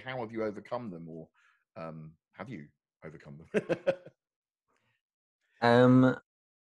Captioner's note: laughs